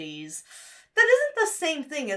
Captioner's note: sucks air through teeth